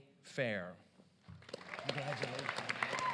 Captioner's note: applause